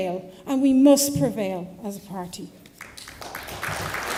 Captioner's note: applause